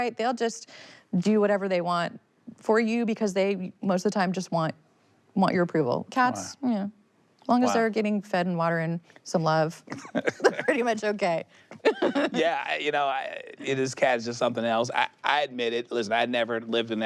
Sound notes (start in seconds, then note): 9.9 laughs; 11.7 both laugh